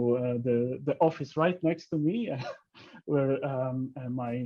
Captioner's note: chuckles